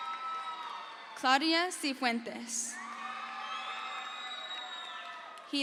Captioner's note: crowd cheers